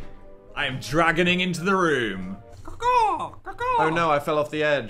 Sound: caws

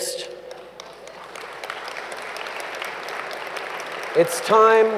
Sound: applause

